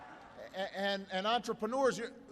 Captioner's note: applause